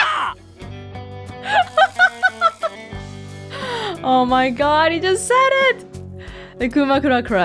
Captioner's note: laughs hysterically; chuckles and inhales